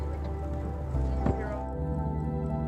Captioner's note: fin thuds